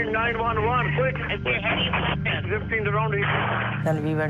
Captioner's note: recording crackles